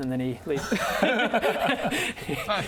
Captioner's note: tough-luck laughter